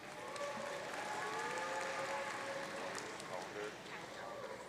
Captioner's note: audience cheering